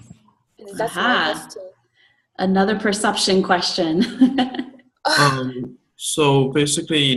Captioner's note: laughs